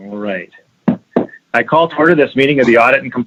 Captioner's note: gavel banging